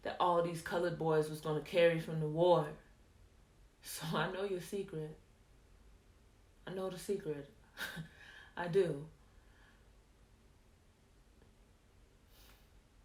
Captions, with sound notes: that all these colored boys was gone carry from the war. So I know yo' secret. I know the secret. (laughs) I do.